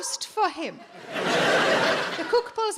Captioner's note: audience laughing